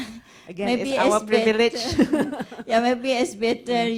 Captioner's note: laughs